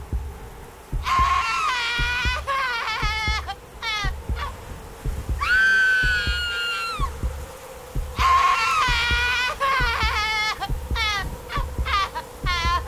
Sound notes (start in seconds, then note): 1.0 woman screaming and crying; 8.2 woman continues screaming and crying